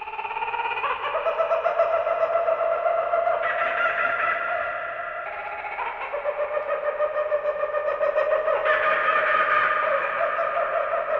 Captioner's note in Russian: звучит мистический смех кукабарры